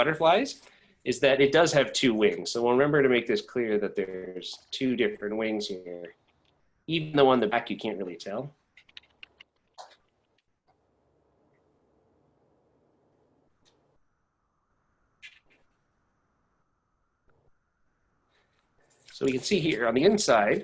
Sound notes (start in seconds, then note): 13.9 long pause